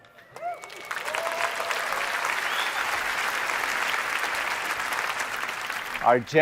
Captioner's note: applause